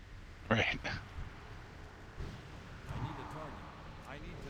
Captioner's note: wind blowing